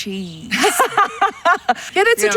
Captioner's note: laughs